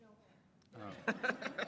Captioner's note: laughter